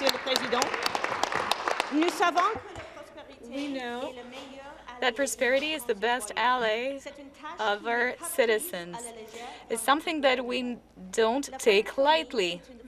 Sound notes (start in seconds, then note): 0.0 applause; 4.7 speaking French